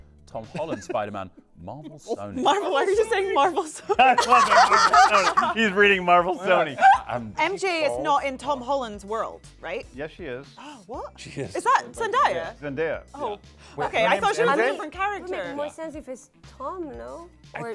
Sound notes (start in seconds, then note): 3.9 laughs